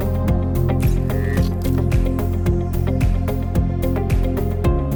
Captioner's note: dynamic music; gears whirring